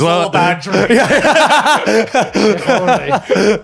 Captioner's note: laughing